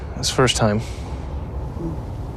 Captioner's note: sighs